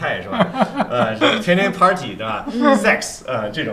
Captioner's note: laughter